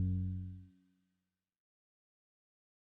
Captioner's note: music stops